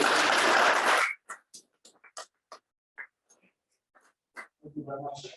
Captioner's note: applause